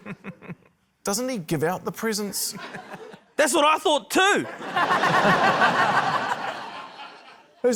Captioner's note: laughter